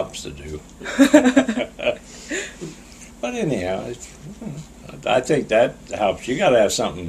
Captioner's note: laughs